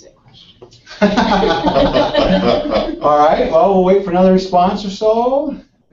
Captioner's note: laugh